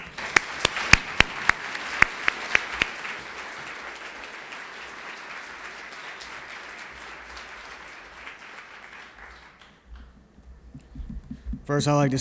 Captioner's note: applause